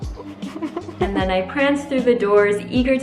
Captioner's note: laughing